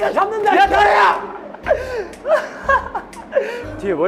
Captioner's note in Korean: инээд